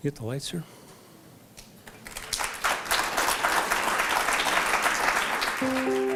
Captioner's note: applause; opening Music